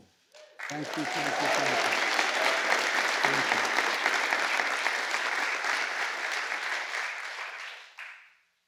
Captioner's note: applause